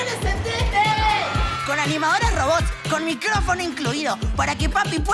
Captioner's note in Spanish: Gritos de niños